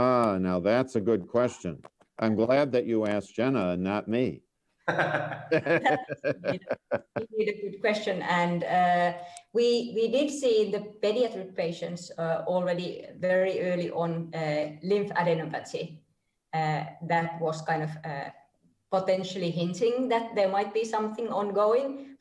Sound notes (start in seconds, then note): 4.8 laughter